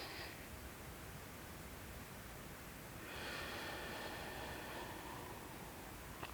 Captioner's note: breathing